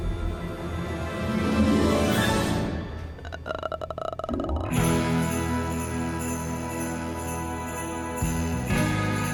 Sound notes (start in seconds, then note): 2.9 groans; 4.5 sleigh bells jingling